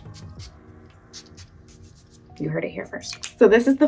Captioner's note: bottle hissing